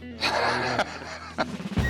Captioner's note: laughs